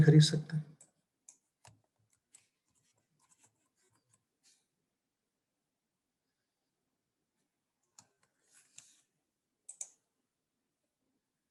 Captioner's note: typing